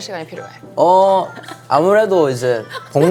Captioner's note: haha